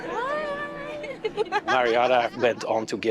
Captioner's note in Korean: 웃음